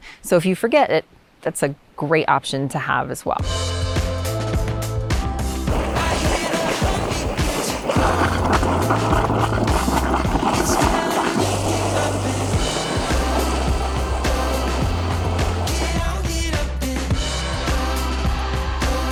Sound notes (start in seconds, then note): 3.6 upbeat music; 8.6 water gurgling